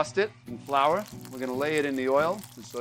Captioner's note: frying oil crackling